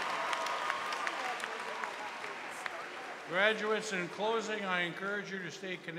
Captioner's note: cheers and applause